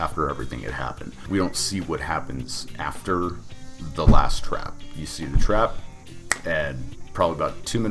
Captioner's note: snaps